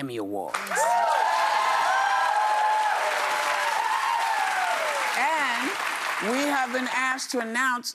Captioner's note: cheers and applause